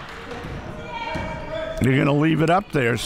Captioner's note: crowd clapping